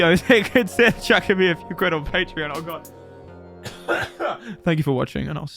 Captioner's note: cough